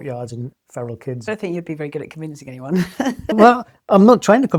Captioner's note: laughs